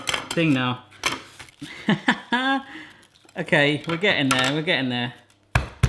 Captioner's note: laughter